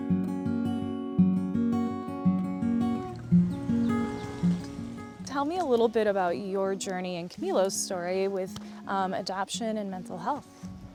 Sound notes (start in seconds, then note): 0.1 warm guitar music; 3.9 birds chirping